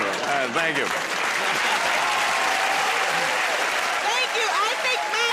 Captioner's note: cheers and applause